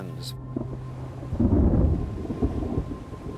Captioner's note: thunder rumbling